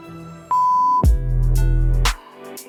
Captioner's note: upbeat music; high-pitch tone